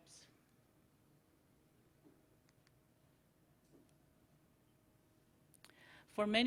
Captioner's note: silence